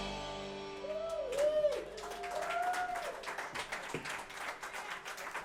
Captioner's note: cheers and applause